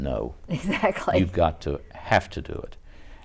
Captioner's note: laughs